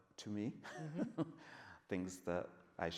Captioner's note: laughs